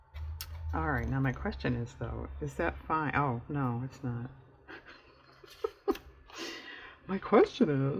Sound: laughs

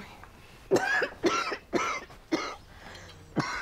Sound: coughing

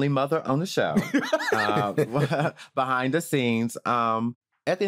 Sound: laughter

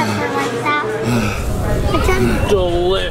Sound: fire roaring; panting heavily

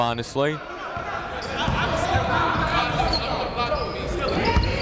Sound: chatter

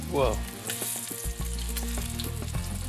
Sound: sizzling

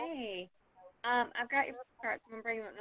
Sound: voiceover

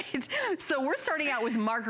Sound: laughter

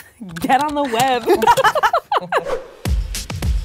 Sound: laughing; upbeat music

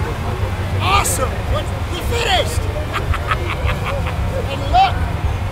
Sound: laughs

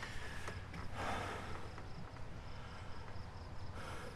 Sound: labored breathe

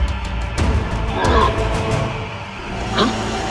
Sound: roars

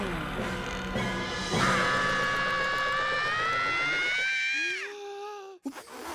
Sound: screams

